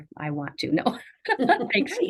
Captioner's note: laughing